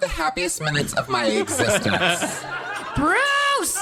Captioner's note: audience laughs